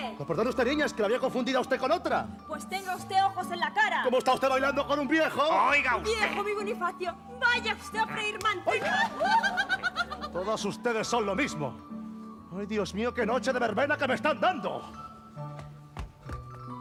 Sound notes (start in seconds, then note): 8.7 laughs